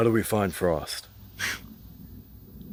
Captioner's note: scoffs